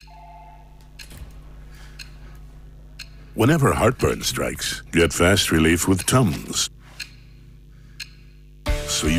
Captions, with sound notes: [phone ringing] [clock ticking sound] Whenever heartburn strikes, get fast relief with TUMS.